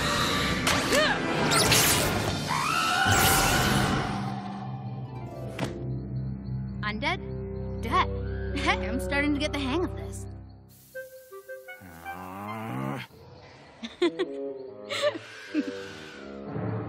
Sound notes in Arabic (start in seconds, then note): 2.3 صراخ; 13.6 ضحك